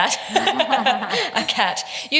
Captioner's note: laughs